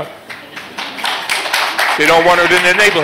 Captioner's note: applause